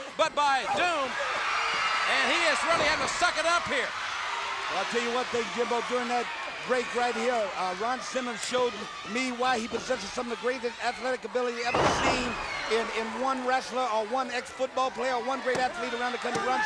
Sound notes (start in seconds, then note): 3.9 crowd booing; 3.9 crowd cheering